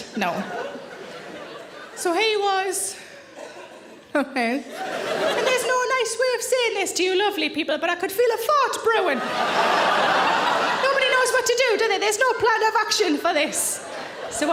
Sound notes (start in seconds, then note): 9.0 audience laughing